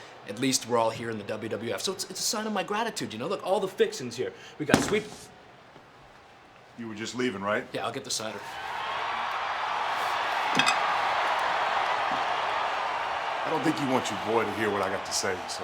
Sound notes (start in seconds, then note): 8.2 crowd cheering